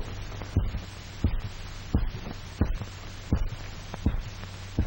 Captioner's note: heartbeat pounding